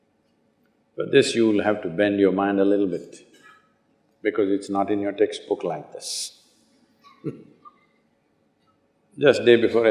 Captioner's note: laughs